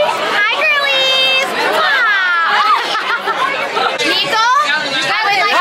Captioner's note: overlapping chatter; laughter